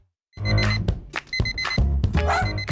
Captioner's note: phone alarm beeps; jaunty music; dog barks